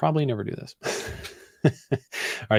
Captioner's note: laughs